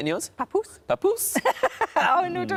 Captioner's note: imitates Sarah; laughs